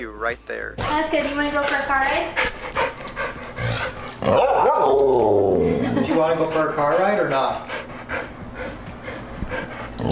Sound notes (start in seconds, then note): 4.2 talking